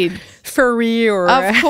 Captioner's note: laughter